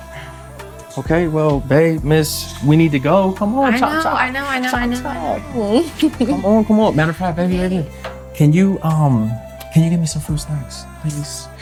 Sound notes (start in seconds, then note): 3.6 Ja'nelle laughing